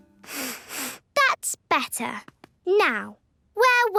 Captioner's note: sniffs